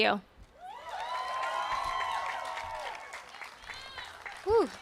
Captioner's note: audience cheers and applauds